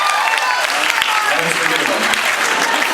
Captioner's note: applauds; cheers, applauds; applauds